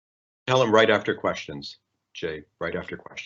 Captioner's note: male Voice